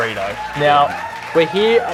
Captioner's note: applause